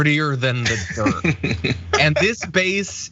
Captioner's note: laugh